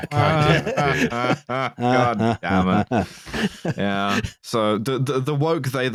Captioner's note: laughs sarcastically